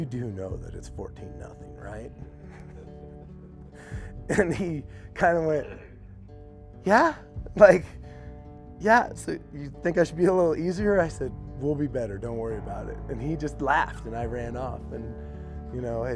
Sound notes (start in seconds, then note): 3.8 laughs